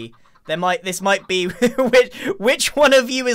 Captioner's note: laughs